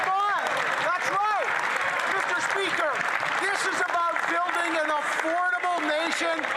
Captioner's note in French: voix de l'interprète